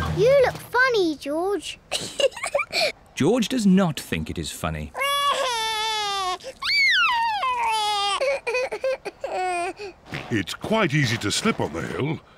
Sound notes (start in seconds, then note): 1.9 giggles; 4.9 cries